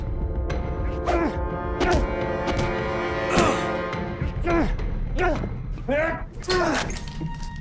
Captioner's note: fighting, groaning; glass shatters